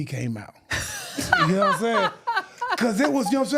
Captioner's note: laughing